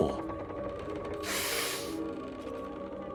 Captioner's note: sniffs